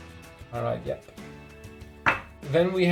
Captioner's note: clanging